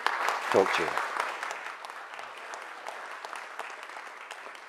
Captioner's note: audience applauds